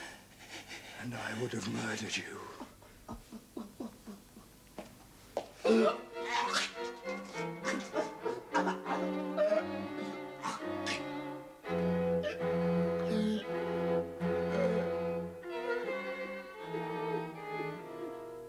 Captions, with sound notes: AND I WOULD HAVE MURDERED YOU. ( cries ) ( retching )